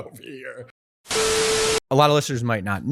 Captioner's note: static